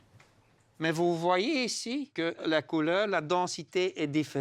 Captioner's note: French spoken audio